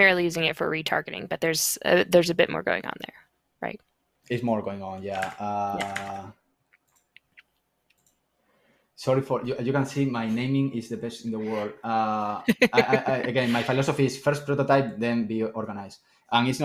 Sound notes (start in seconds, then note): 12.4 laughs